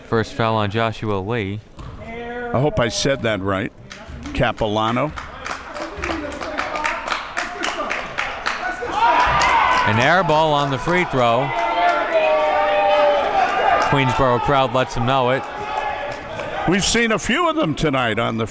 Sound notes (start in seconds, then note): 12.9 crowd cheering